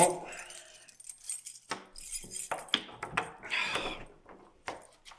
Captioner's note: keys clanging; Jacob sighs